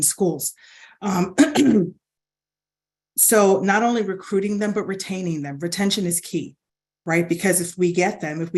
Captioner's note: cough